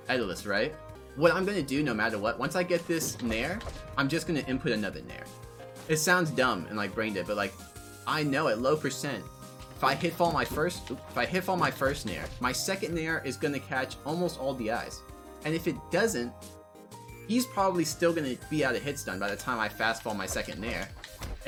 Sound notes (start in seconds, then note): none